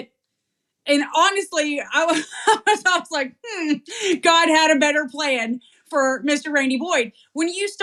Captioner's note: laugh